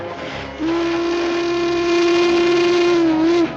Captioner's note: train horn blaring